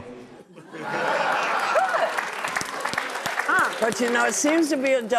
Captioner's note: audience applauding